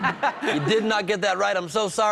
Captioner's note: laughter